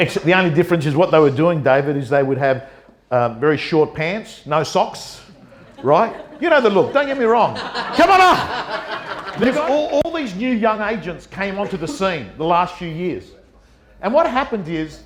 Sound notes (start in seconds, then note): 7.0 audience laughter; 9.2 audience laughter